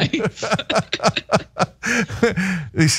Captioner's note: laugh